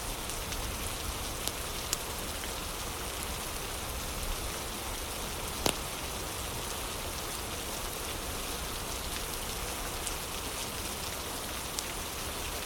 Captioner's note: fire crackling